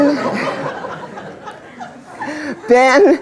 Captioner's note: laughter